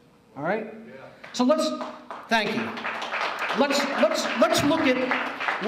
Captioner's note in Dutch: applaus